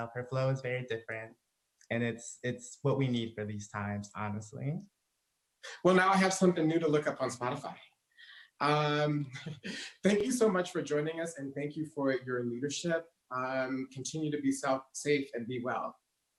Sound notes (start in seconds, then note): 9.2 laughs